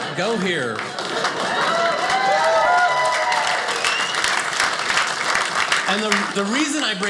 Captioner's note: audience applauding